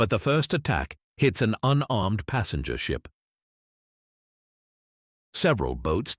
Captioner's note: man speaking